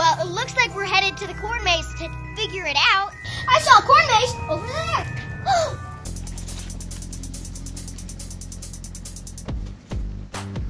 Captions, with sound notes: Well, it looks like we're headed to the corn maze to figure it out. I saw a corn maze over there! [Gasps]